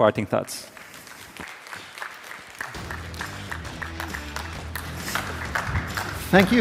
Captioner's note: applause